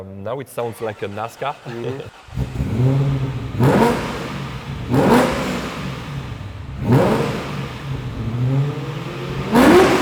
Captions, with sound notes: Now it sounds like a NASCAR. (REVVING)